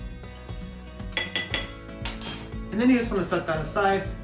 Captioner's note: spoon tapping